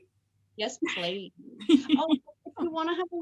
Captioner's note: laughs